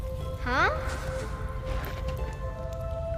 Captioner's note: dripping